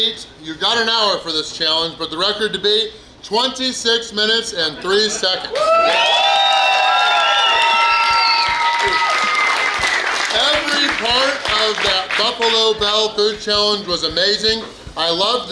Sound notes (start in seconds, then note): 5.4 cheering & Clapping